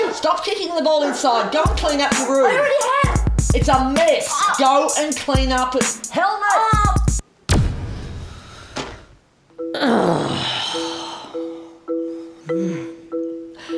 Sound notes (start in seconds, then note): 9.6 groans in frustration